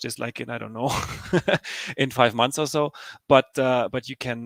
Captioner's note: laughing